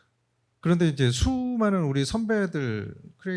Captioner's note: speaking korean